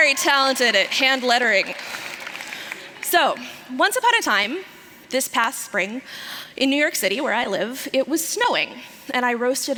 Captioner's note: applause